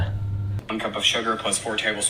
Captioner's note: voice On Phone